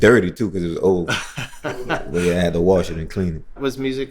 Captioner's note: laughter